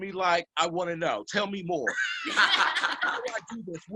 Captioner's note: couple laughs